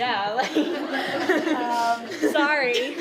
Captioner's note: laughter